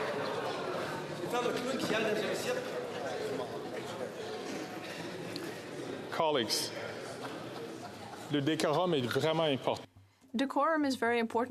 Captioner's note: chatter